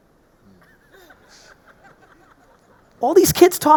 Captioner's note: audience laughing